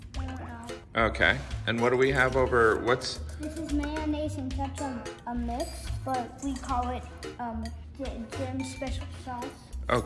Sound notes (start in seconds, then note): 3.5 pat